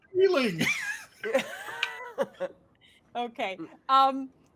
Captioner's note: all laughing